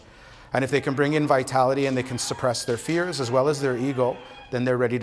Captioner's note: speaking Alternate Language